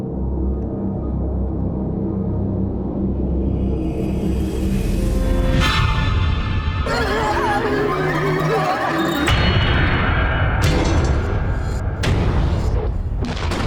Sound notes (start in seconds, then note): 0.1 tense ominous music; 6.6 child babbling; 10.3 tense ominous music